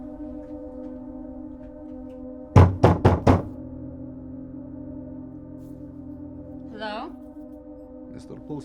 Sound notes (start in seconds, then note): 2.5 banging on door